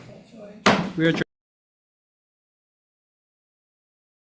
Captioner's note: gavel pounds